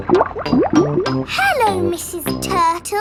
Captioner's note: bubbling